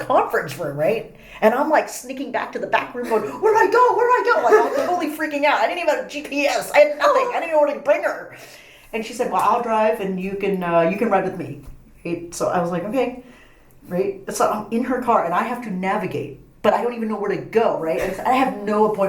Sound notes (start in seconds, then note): 3.0 laugh; 7.6 gasps